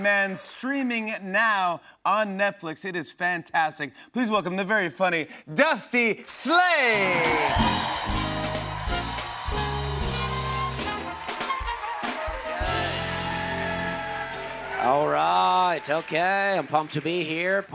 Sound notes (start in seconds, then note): 7.4 cheers and applause